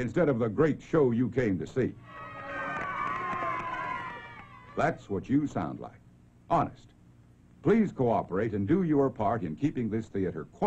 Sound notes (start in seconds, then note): 8.7 cheering